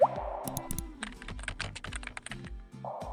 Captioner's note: water dropping; mouse clicking; keyboard clacking